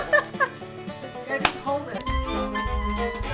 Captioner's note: laughter; hands slapping